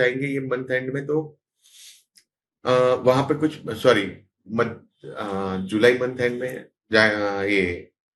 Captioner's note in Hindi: नाक से की जाने वाली आवाज़